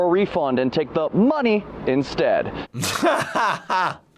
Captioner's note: laughing